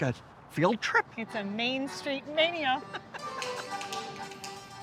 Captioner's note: laughs; bright dance music